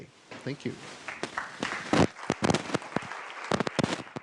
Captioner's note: applause